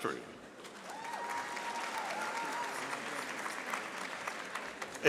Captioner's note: audience applauding